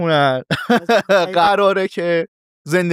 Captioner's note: laughs